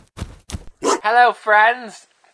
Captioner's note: deep woof